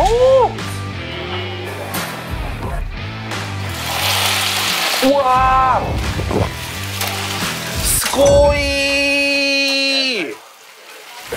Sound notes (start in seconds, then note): 3.6 boiling